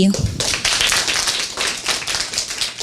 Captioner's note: applause